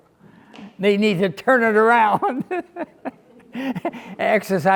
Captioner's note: laughs